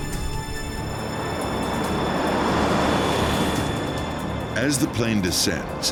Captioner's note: jet whooshing